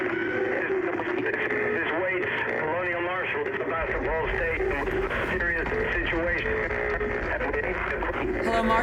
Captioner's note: Static